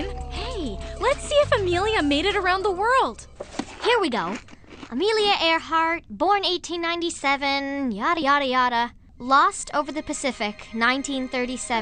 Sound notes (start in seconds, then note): none